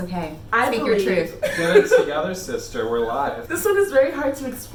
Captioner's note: laughs